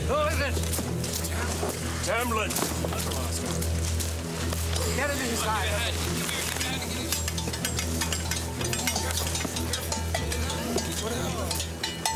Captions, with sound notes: - Who is it? - Tamblin. - Get him inside. (men chattering) (bell rattling) Careful, careful.